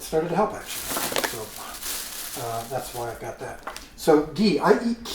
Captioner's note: bag crinkles